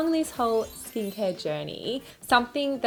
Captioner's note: chimes